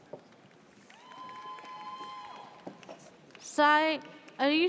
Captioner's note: audience cheers